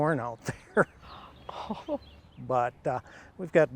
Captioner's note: chuckles; gasping